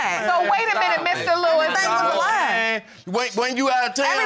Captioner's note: all clamoring